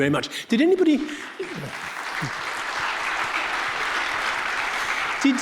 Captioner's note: audience clapping